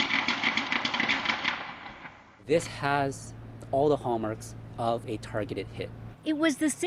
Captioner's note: gunshots